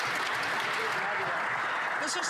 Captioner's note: some Applause